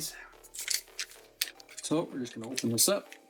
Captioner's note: crunching